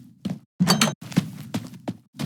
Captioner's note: footsteps; door opens; footsteps